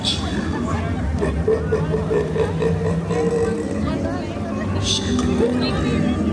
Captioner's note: Angel of Death laughing